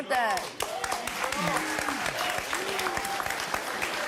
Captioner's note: applause